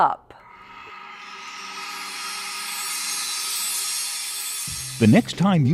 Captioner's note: sound Effects